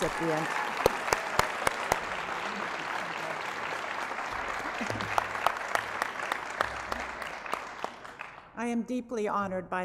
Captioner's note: applause